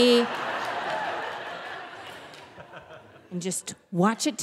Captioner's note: audience laughing